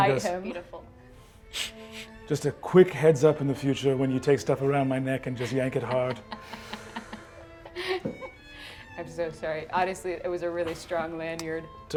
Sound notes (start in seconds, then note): 5.4 laughs